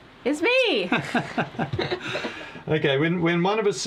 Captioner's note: both laughing